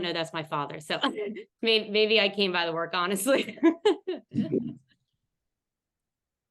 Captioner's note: laughs